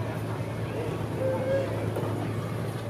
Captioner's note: train whistle